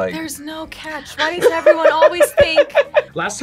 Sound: laughs

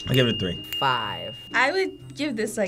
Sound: bell dinging

